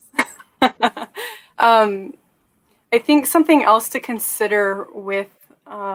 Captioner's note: laughter